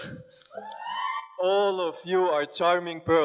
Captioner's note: girls scream